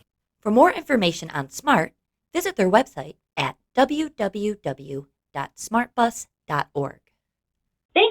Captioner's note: voiceover